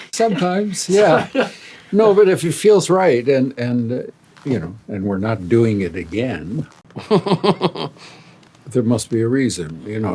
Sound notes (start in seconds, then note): 7.0 chuckling